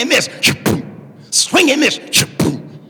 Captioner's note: swinging and missing ball